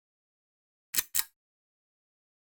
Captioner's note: click